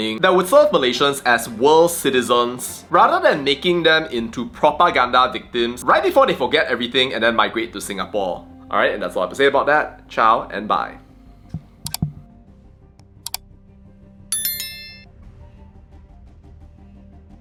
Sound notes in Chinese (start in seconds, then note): 11.5 鼠标点击; 14.3 铃声响起